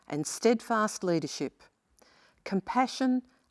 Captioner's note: none